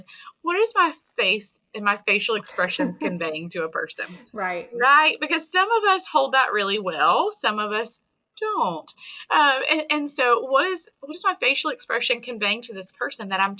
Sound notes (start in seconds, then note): 2.4 laughing